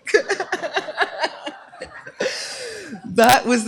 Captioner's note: laughter